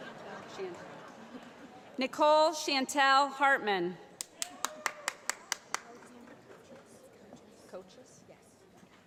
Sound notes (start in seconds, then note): 4.2 applause